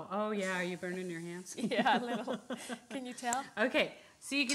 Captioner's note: laughs